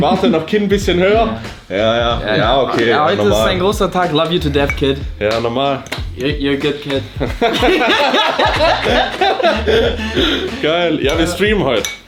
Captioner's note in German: gelächter